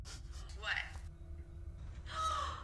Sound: sigh

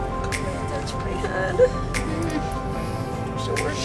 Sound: sigh

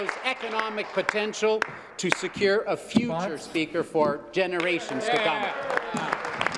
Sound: applause

